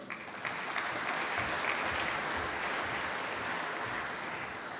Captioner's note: applause